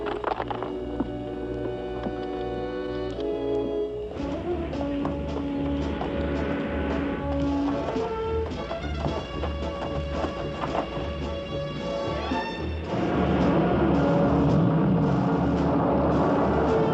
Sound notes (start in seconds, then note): 4.2 music accelerates; 10.7 footsteps; 12.9 engines rumbling